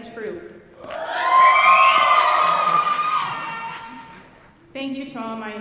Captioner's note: audience cheering